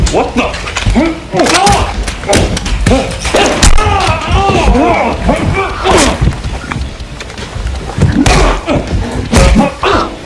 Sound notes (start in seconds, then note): 0.9 yells; 3.4 screams; 5.6 both grunt